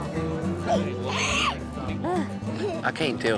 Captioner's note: laughs